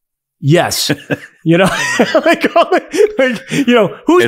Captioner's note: both laughing